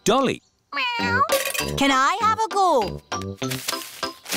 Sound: meows

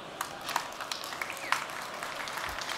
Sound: applause

